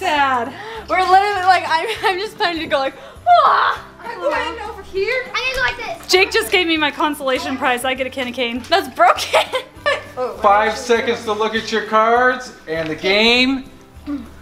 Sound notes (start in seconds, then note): 3.2 yells; 8.8 laughs